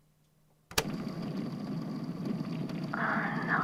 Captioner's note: click; car engine running; breathing rapidly, voice somewhat muffled